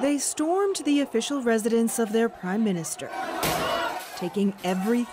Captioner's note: chants